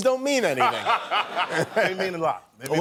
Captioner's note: laugh